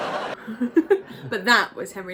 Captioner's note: laughs